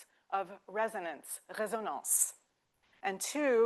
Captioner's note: speaking French